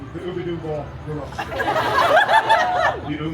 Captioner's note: guests laughing